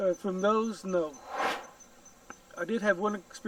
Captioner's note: air swooshes